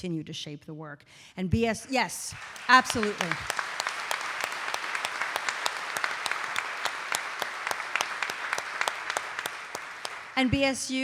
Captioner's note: audience applauding